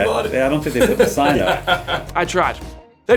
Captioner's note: laughing